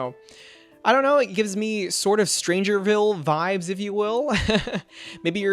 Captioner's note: laughs